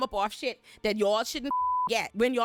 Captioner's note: beep